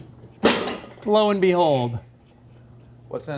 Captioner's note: bowls clattering